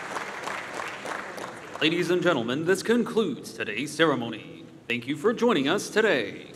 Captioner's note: applause